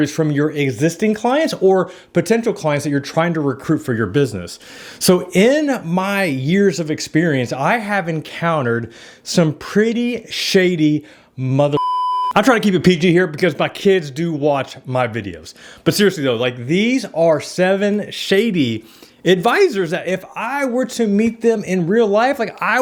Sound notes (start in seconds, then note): 11.7 beep